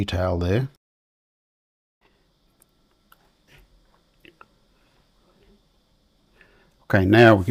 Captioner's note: silence